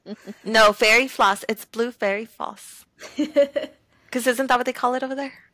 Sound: laughter; laughter

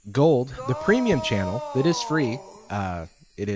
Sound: disembodied voice

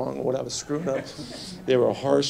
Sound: light laughter

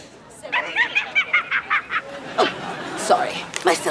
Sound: cackle

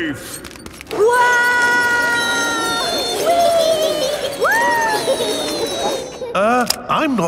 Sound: all yelling

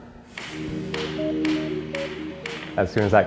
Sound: hammering

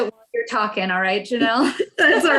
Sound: laughs

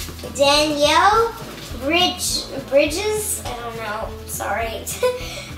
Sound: chuckles

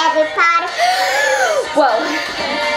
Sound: gasps

